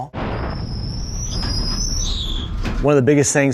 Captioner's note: tires screeching